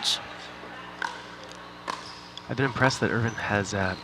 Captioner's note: ball bouncing